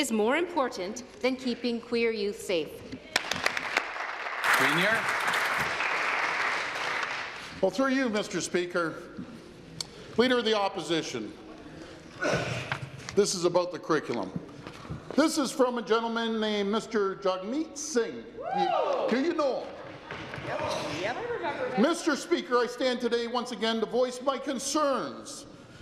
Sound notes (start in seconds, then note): 7.3 applause